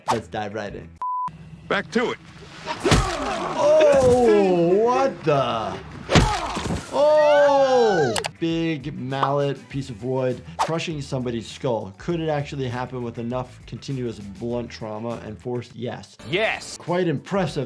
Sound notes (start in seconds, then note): 2.7 bat thudding; 6.0 bat thudding; 6.1 woman screaming